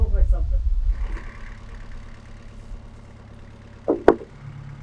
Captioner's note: engine running